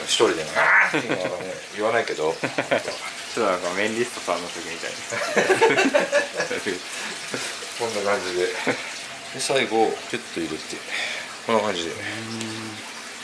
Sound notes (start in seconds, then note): 8.4 laughs